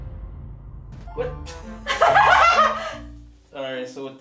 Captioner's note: laughing